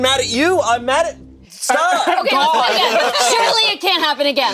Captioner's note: group laughing